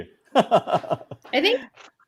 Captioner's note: laughing